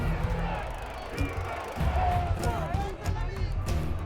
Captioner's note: chanting